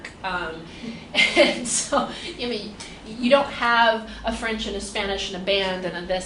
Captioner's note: laughs